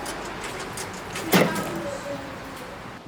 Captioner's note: gas pump stops